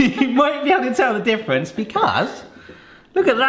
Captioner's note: chuckles